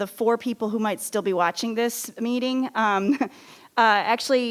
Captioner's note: laughs